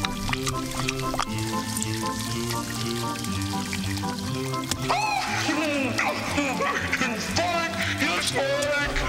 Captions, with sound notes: [laughing] Spike! Here Spike!